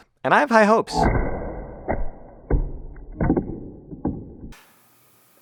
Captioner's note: wood pulp bursting